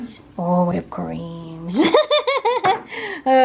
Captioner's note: laughter